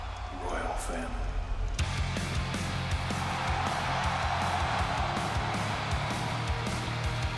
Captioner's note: applause